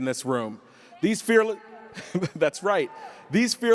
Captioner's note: yelling audience member